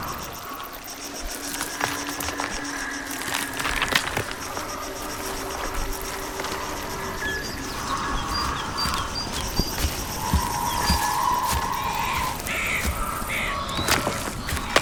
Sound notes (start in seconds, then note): 1.1 branches cracking; 11.8 birds squawking